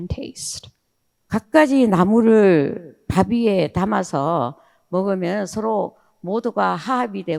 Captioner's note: speaking in foreign language